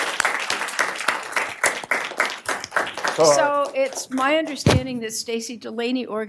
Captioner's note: applause